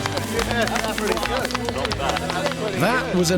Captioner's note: clapping